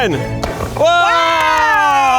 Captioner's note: device exploding gently